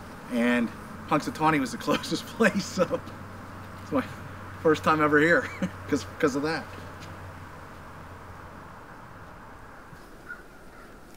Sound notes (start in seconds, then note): 1.8 laughs; 5.3 chuckles; 8.8 traffic humming; 10.2 bird squawking; 11.0 traffic humming